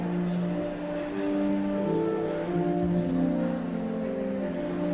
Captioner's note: enigmatic organ music continues; audience chattering continues